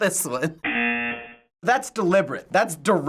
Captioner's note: buzzer